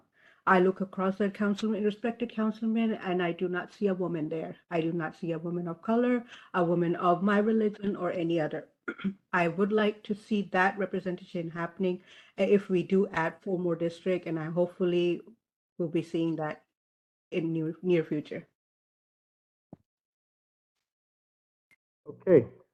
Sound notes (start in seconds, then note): 8.8 cough